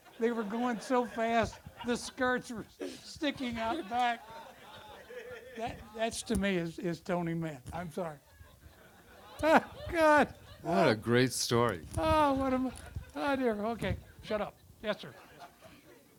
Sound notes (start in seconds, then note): 4.4 audience laughter